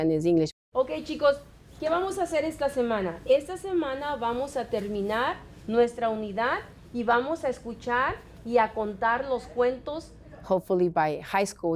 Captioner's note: speaking Spanish